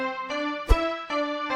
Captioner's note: woosh